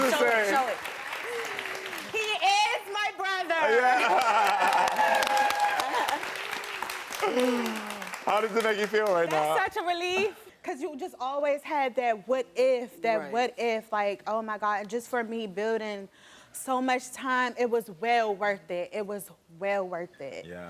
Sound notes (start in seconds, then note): 3.3 audience clapping and cheering